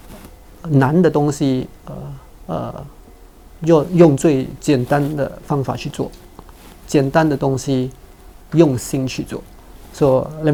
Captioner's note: Mandarin